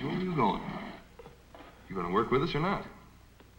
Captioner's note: none